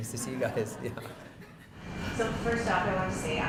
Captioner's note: laughing